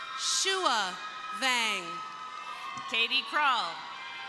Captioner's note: crowd cheering